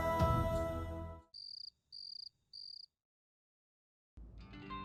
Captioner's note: crickets chirping